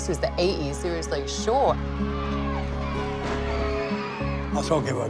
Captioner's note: cheering